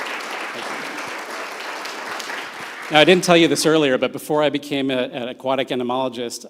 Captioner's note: audience Applauds